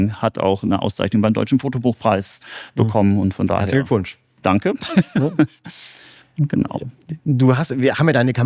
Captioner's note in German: gelächter